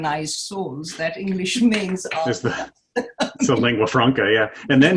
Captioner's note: laughing